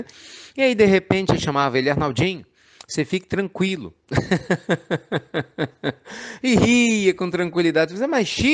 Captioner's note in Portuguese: Risos